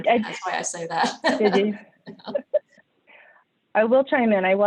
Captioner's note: both laugh